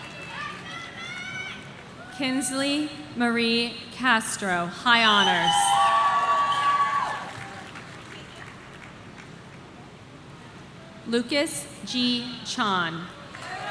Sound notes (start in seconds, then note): 5.2 audience cheering